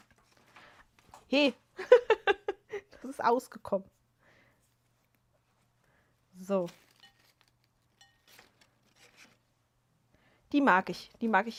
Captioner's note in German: gelächter